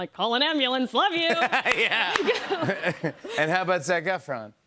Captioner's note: laughter